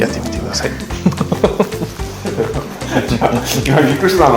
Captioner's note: laughs